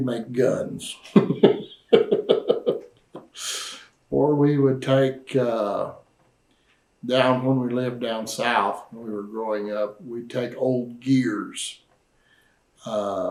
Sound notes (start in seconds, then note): 1.0 laughs